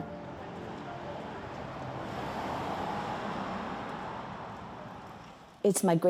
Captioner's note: sound of car going